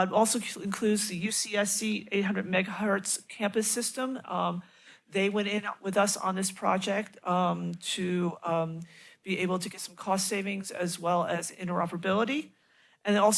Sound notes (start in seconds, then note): none